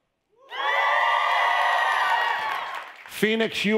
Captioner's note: audience cheering